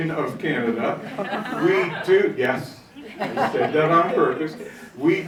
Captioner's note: audience laughing